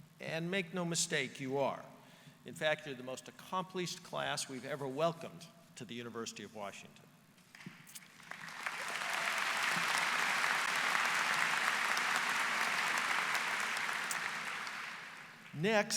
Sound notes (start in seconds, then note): 7.5 applause